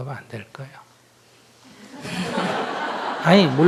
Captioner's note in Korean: 청중 웃음